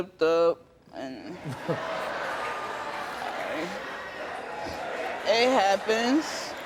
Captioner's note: Steve chuckles; crowd laughs